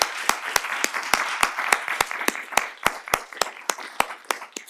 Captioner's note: applause